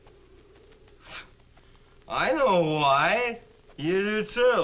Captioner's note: scoffs